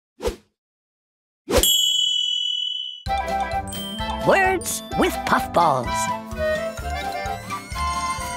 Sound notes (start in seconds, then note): 1.6 bell rings; 6.8 carnival music